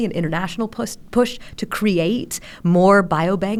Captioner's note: none